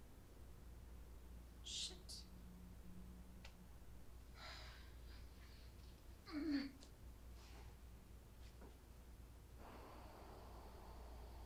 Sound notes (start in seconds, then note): 4.6 Natalie sighing